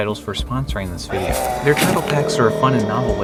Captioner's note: monstrous growl